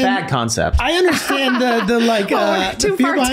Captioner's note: laughing